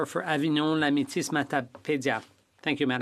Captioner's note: speaking French